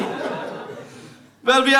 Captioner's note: audience laughs